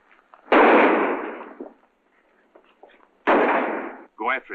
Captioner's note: gunshots